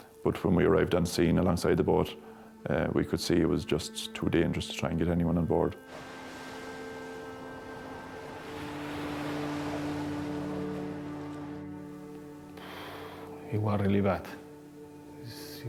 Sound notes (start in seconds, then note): 7.6 waves roar